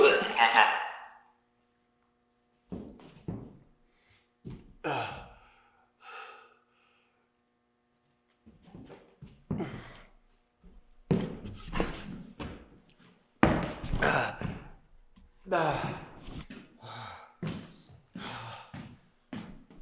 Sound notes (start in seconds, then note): 0.0 Jacob vomiting; 4.8 Jacob groans; 15.4 Jacob groaning; 16.7 Jacob panting